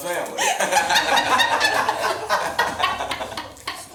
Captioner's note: group laughs